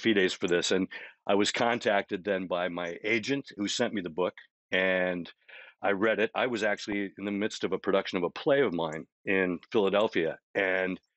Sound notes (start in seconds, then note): none